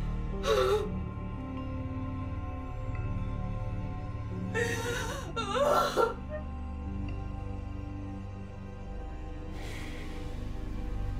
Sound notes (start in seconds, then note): 0.0 gasping; 4.4 sobbing